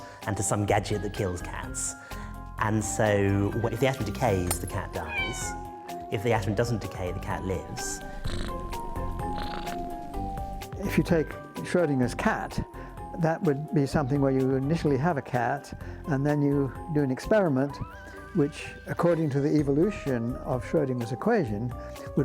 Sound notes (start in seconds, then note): 4.9 cat meows; 7.6 cat purrs